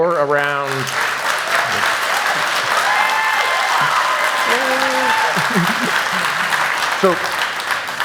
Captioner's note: applause